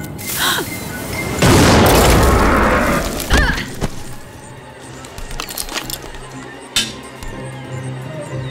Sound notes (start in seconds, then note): 0.2 gasp; 1.4 boom